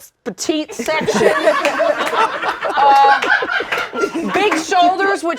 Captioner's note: all laugh